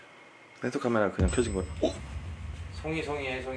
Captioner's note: the bell rang